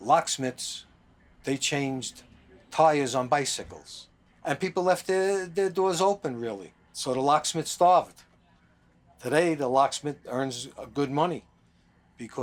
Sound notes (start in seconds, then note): none